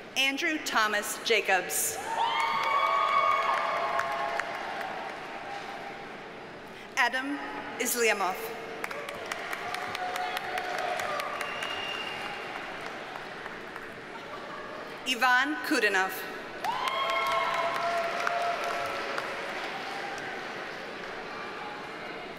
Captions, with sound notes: Andrew Thomas Jacobs. (audience cheers and applauds) Edem Isliamov. (audience cheers and applauds) Yvan Koudinov. (audience cheers and applauds)